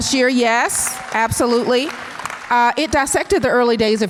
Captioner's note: audience applause